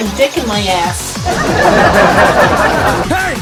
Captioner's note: fake stock luaghter